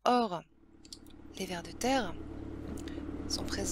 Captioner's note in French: bruit de tracteur